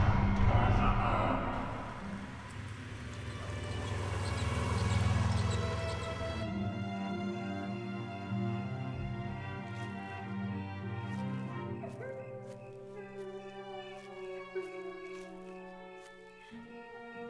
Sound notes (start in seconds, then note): 0.3 menacing music; 4.2 ominous music; 12.0 woman sobbing